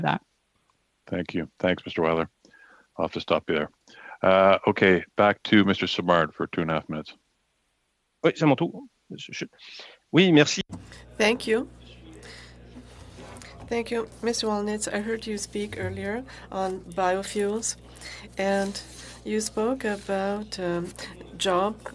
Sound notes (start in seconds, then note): 17.7 speaking FRENCH